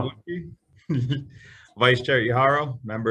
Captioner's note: chuckles